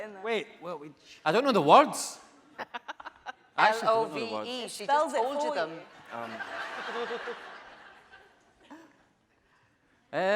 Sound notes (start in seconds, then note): 2.6 laughing; 6.2 laughing